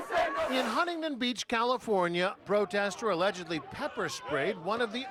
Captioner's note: crowd chanting